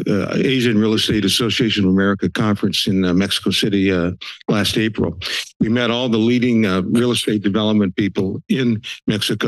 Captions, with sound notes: Asian Real Estate Association of America Conference in Mexico City [sniffles] last April. [sniffles] We met all the leading real estate development people in Mexico.